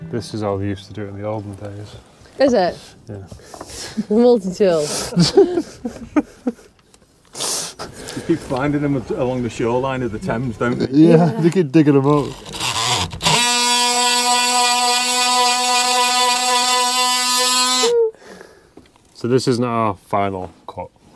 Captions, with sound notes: This is all we used to do in the olden days. Is it? Multitool. You keep finding them along the shoreline of the Thames don't you? Yeah they keep digging them up! [tool noise] So this is not our final cut.